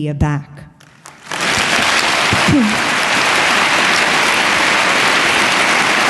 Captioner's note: applause